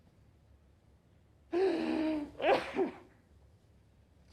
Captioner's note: sobs